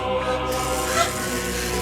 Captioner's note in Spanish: Chirridos de las descargas eléctricas